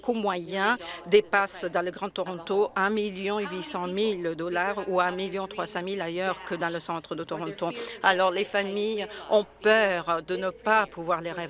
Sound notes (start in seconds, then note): none